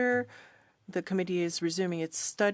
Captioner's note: speaking in French